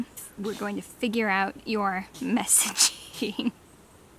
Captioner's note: still having a sneezing attack in the background lol!